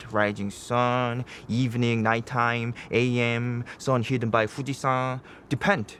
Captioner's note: speaking in foreign language